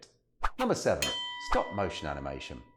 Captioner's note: bell rings